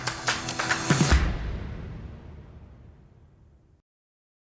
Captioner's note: logo whooshing